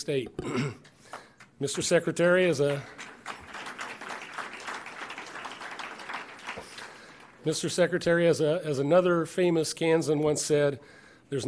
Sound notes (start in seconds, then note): 5.2 applause